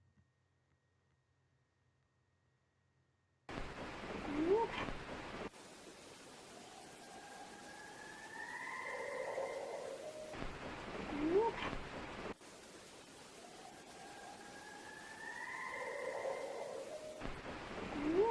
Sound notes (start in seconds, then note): 4.3 white noise crackling; 4.4 voice whoops; 6.7 owls calling; 7.5 white noise crackling; 11.2 voice whoops; 13.5 owls calling; 14.1 white noise crackling